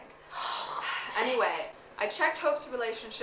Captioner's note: sighs